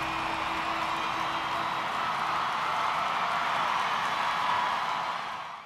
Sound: cheering, clapping

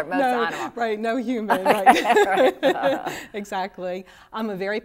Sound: laughter

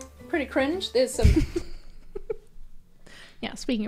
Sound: laughs

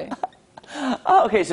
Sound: laughter

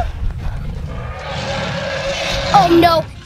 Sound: loud roar

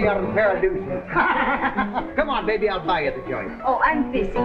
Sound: chuckles

